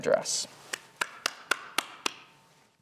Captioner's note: claps